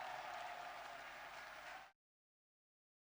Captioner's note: applause